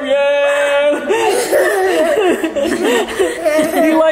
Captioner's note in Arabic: الكل يضحك